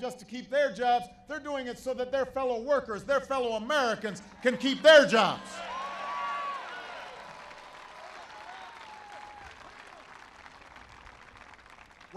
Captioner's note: applause